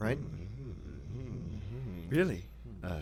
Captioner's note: worried murmuring